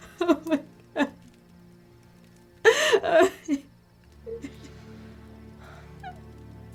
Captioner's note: crying